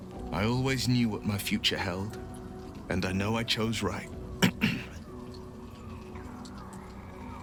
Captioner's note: clears throat